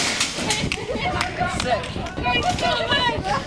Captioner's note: laughter, cheering